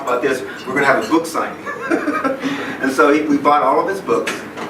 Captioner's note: laughs